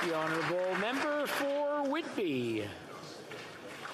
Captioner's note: some Applause